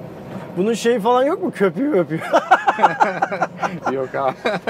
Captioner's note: laughings